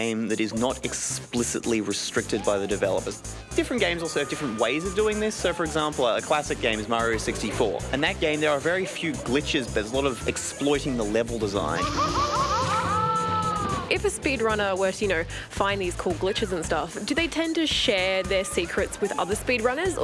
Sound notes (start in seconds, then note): 11.7 mario laughs